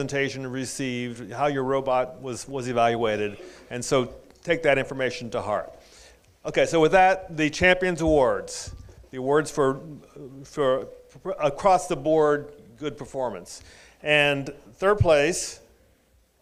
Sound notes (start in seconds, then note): none